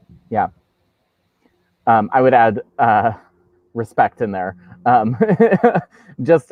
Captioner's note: laughs